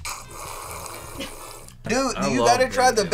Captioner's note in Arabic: تضحك